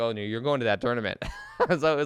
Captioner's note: laughs